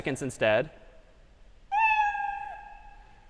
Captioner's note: meow